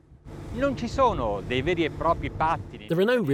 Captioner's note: speaking foreign language